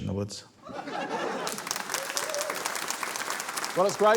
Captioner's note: laughter, cheering, applause